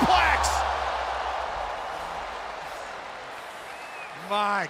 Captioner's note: crowd cheering